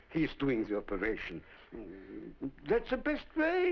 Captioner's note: mumbles